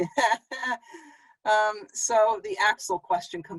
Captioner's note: chuckling